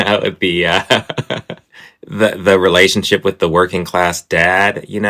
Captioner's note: laughter